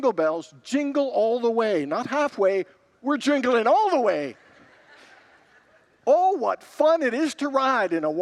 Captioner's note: congregants laugh